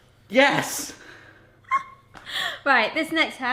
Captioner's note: laughs